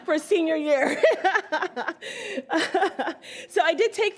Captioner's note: all laugh